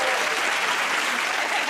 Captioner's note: cheers and applause